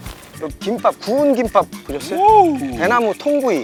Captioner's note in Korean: 감탄